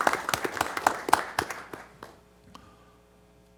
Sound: applause

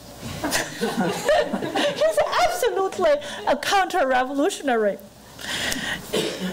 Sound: laughing

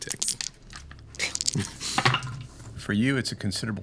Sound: dice rolling

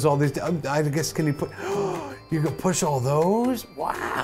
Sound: gasp

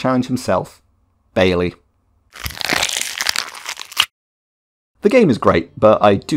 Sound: Crunch

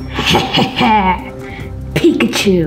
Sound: maniacal laughing

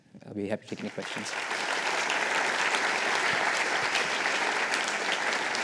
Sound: applause

